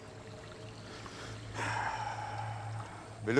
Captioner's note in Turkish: Nefes sesi